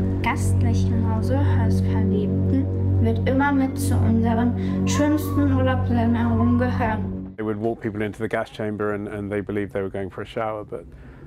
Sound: speaking german

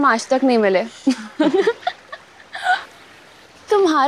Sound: laughing

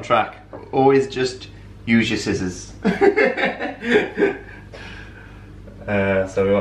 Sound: laughter

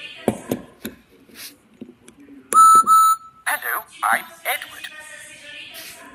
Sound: whistle blows

